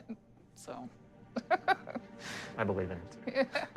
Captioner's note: she laughs